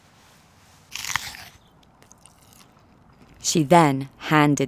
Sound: fruit crunching

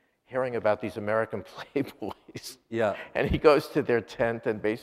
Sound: laughs

